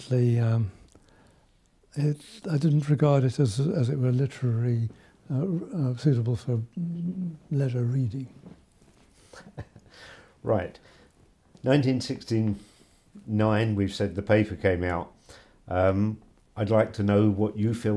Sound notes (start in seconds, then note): 4.6 chuckles